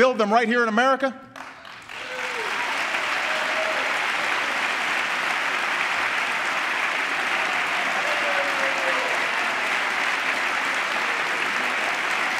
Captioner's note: applause